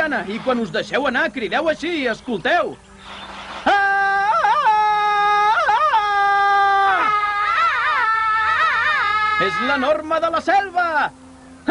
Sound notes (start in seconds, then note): 3.6 Tarzan yells; 7.2 the triplets yell like Tarzan